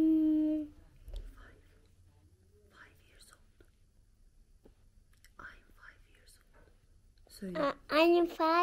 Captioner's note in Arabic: أهمس له بالإجابة